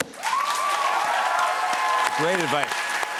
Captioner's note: cheers and applause